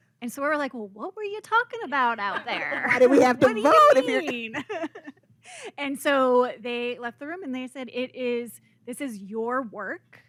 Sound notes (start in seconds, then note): 2.3 laughter